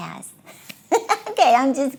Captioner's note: laughs